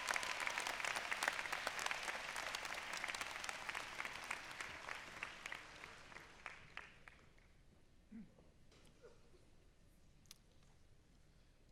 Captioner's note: applause